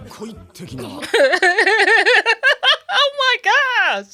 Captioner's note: laughing